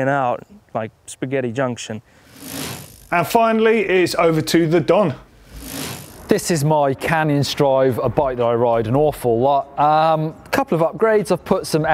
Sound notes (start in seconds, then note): 2.3 quick rattle; 5.4 quick rattle